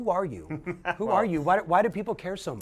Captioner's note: chuckles